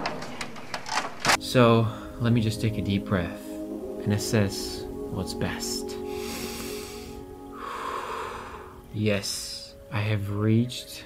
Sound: exhale; inhale

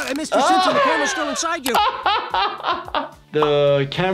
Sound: laughs

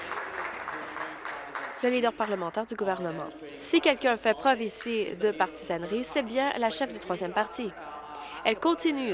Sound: applause

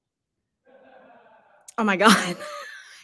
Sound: people laughing in distance

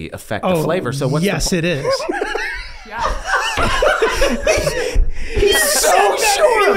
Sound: everyone laughing

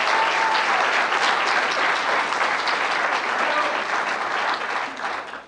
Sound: applause and cheering

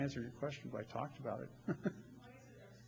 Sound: laughs

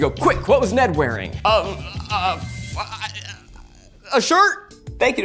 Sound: babbles

